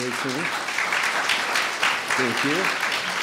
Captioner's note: audience applauds